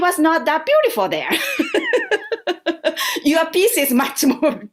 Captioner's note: laughter